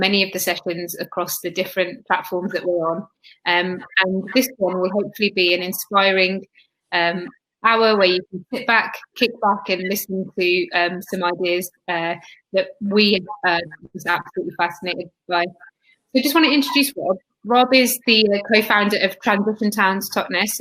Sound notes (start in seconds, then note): 2.0 erm; 16.2 erm